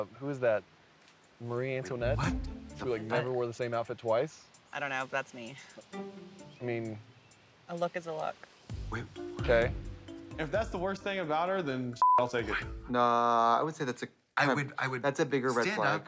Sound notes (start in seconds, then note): 12.0 beep